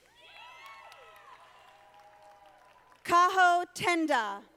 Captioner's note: audience applauding